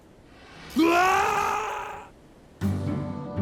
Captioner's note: screams